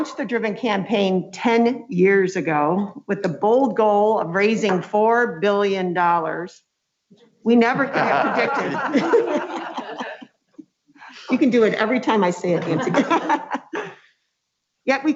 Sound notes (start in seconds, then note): 7.7 laughs; 12.5 laughs